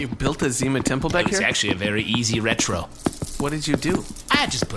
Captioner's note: sound of walking through beaded curtain